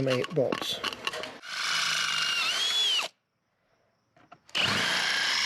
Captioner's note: drilling